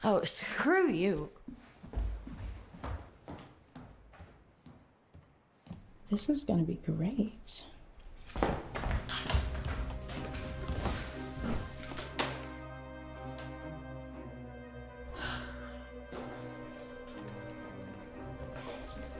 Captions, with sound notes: - Oh, screw you. - This is gonna be great. (somber music) (Claire sighs)